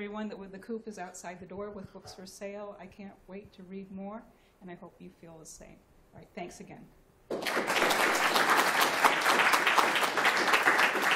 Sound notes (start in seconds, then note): 7.3 applause